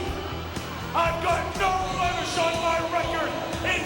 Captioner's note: crowd chatter